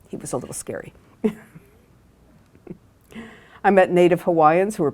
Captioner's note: laughs